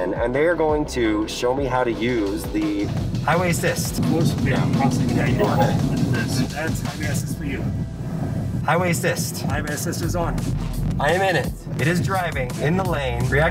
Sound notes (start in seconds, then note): 5.5 computer beep